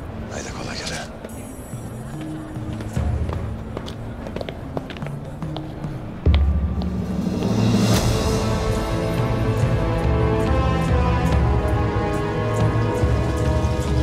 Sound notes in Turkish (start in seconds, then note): 2.1 Ayak sesi